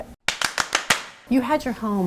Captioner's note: hand clapping